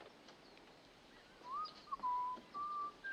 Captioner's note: whistling